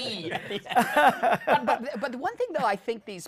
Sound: laughter

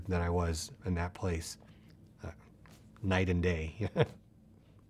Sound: chuckles

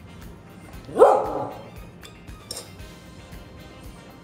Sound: Gus barking

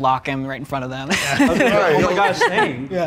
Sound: laughs

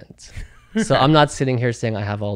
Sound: laughs

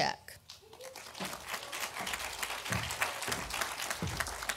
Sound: audience applauding

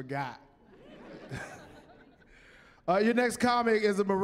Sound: chuckling

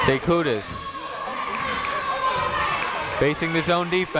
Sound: people shouting in the crowd

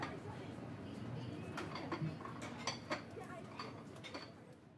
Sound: crowd chattering

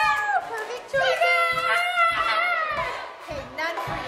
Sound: kids cheering; screaming

